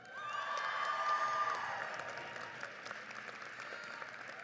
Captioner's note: audience applauds